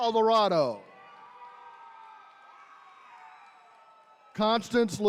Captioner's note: attendees cheering